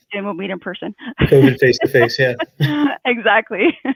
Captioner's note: laughs